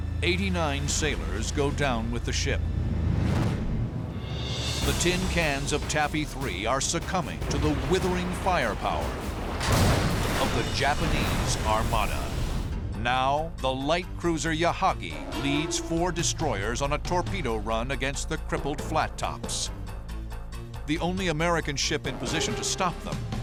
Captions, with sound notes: 89 sailors go down with the ship. The tin cans of Taffy 3 are succumbing to the withering firepower-- [explosion] --of the Japanese armada. Now, the light cruiser Yahagi leads four destroyers on a torpedo run against the crippled flat tops. The only American ship in position to stop them